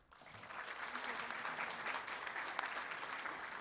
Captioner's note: room applauds